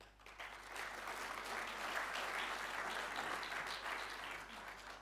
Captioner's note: audience applauding